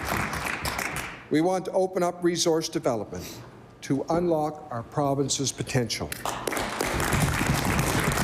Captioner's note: applause